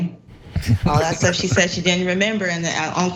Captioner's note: laugh